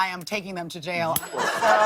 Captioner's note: ding